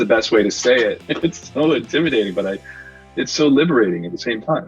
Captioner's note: laughs